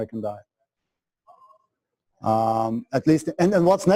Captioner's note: pause